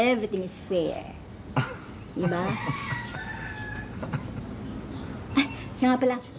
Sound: chuckles

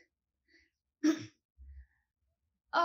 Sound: clears throat

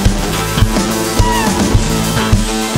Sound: high pitch squeel

